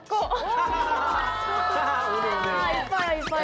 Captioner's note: laughing